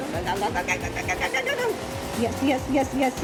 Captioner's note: speaking rapidly